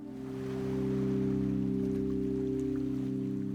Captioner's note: waves lapping